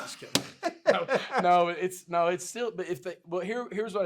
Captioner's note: laughs